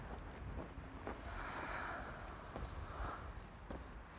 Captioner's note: Carmen sighs